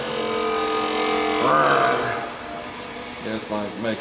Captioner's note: growling at tool